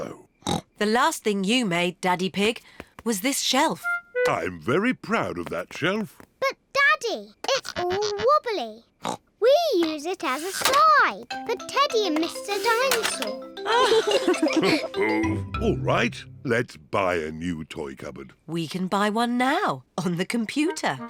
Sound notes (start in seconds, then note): 0.2 snorts; 8.7 snorts; 13.6 both laugh